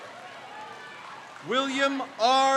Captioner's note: crowd cheers